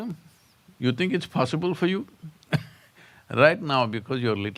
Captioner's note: laughs